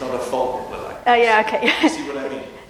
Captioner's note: laughs